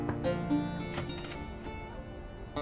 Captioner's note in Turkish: Kapı Çalıyor; Kapı Açılıyor